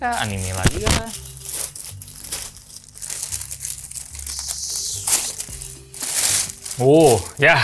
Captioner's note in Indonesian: suara kresek